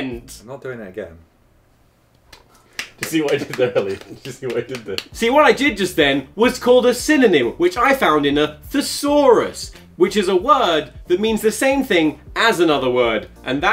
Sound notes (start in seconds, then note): 2.2 face slapping